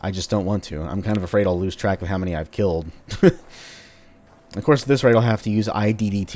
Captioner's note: chuckles